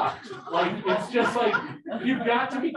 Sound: people laughing

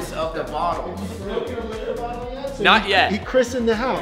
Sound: man speaks faintly

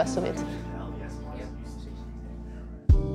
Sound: murmurs

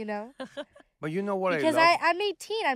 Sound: giggling

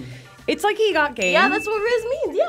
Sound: bell dings

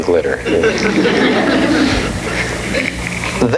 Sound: audience laughing

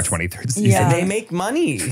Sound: laughing

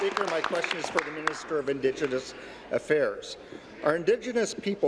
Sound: applause

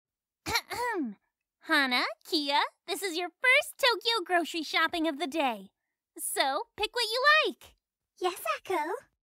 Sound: clears Throat

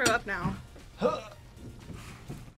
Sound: grunts

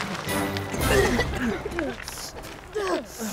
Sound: coughing

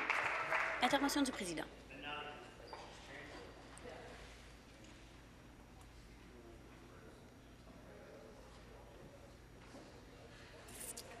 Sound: applause

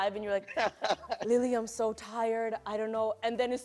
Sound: laughs

